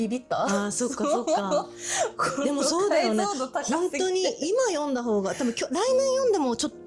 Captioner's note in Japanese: 笑い